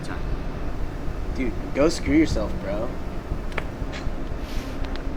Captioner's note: scoffs